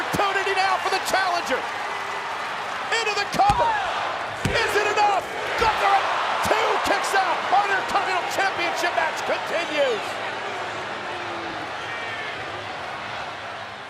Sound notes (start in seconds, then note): 4.9 audience cheering